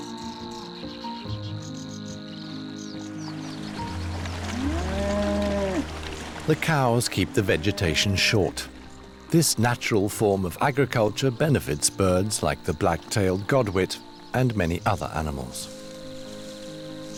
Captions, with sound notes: [cow moos] The cows keep the vegetation short. This natural form of agriculture benefits birds like the black-tailed godwit and many other animals.